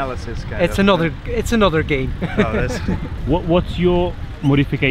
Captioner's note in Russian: смеётся